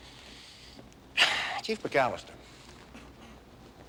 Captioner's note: exhales